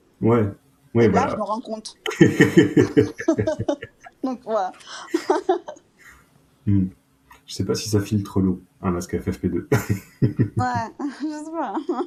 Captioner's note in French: rires